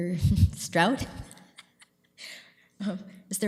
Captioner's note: laughing